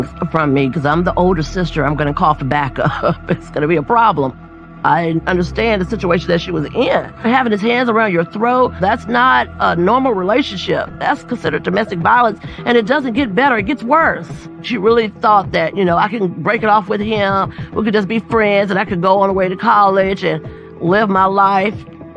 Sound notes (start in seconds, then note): 2.5 laughs